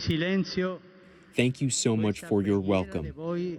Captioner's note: through translator